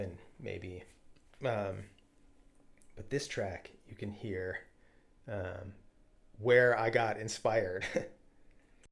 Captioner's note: chuckles